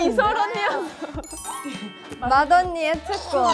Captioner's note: hehe